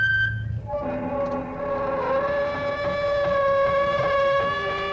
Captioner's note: metal squeaking; door opens, creaking